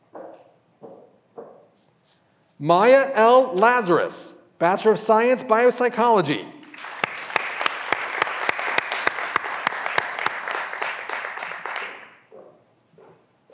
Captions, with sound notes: Maya L. Lazarus, Bachelor of Science, Biopsychology. (graduands applauding)